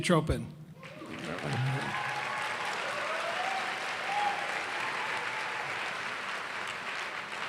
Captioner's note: cheers and applause